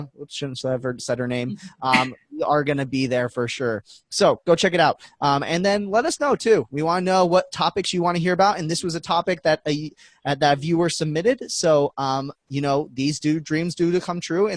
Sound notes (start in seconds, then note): 1.6 laughing